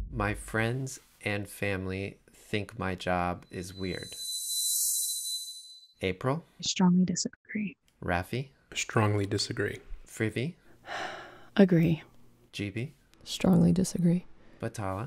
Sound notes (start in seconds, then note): 4.1 slow music; 10.9 sighing